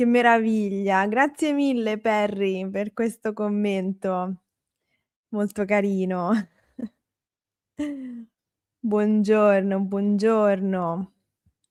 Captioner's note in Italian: risate